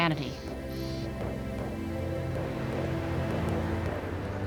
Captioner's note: insects and birds chirping